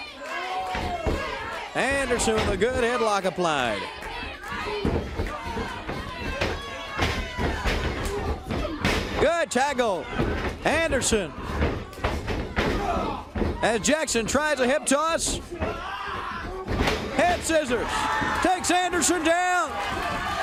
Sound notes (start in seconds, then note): 9.7 crowd cheering